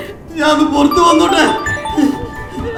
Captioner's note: mobile ringing